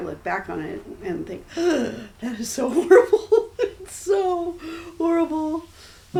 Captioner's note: gasps